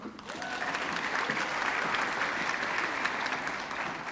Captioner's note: audience clapping